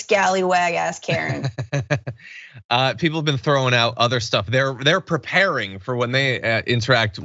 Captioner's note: laugh